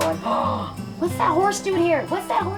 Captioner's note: gasp